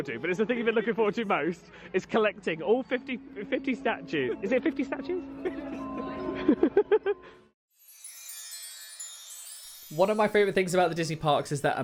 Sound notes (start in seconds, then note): 6.2 cries; 8.2 magical music